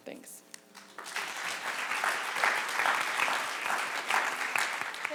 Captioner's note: audience applause